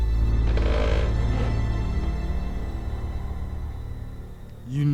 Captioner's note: table creaking